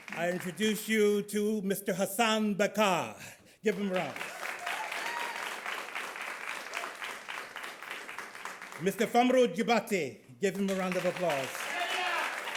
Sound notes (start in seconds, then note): 3.6 audience claps; 12.3 audience claps